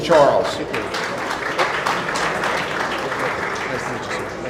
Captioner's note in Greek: χειροκροτημα